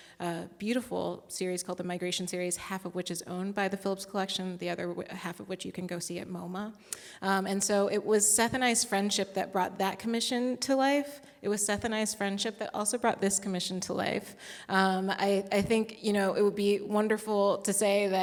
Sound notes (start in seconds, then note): none